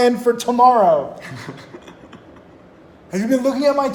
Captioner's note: laughing